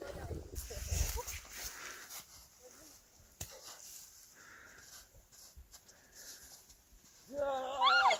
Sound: laughter, sound of snowballs play; bustle and laughs

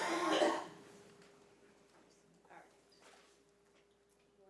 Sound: people coughing

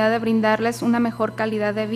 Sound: speaking foreign language

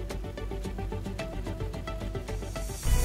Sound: none

